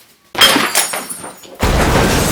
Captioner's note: glass Breaking; explosion